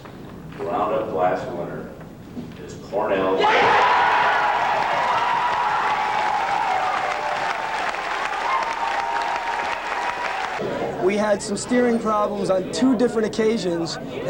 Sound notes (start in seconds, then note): 3.3 yelling, shouting, cheering